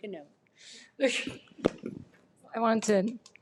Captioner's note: laughs